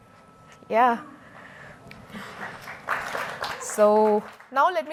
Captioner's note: applause